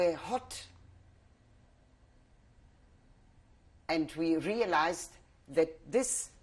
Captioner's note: pauses for 3 seconds